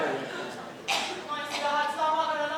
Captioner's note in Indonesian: Batuk